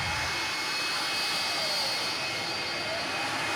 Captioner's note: siren blaring